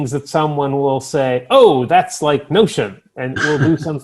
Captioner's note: chuckles